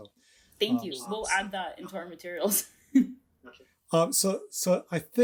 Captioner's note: chuckles